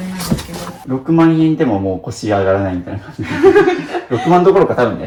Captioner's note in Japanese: 笑い